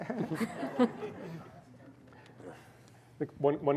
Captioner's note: laughter